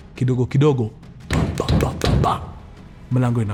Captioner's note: knocking